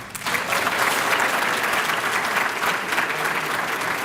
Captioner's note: applause